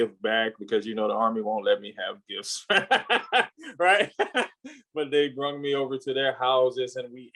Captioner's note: laughs